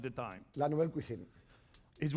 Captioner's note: speaking spanish